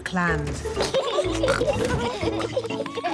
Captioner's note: both giggling